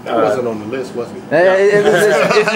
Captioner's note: laughter